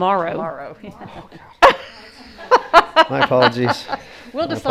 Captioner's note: laughing